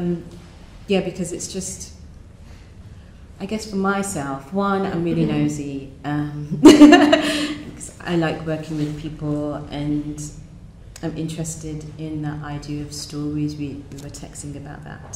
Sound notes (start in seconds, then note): 7.1 laughs